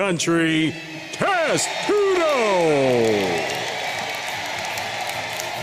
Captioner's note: audience cheering; energetic music